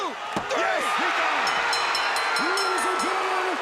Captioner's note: bell ringing